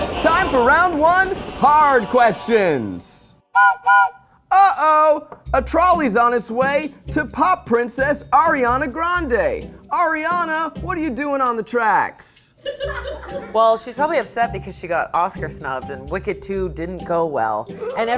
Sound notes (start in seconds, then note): 3.4 whistle blows; 12.8 crew laughing